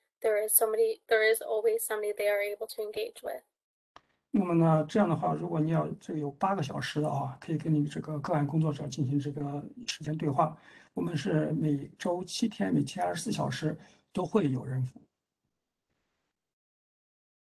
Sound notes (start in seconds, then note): 7.6 speaks in Mandarin